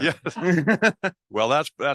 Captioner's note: laughs